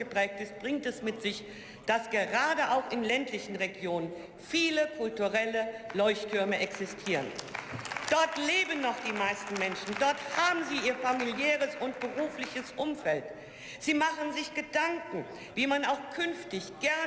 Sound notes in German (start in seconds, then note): 5.8 Beifall